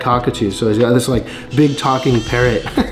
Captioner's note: bird squawking